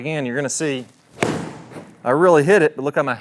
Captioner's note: club smacking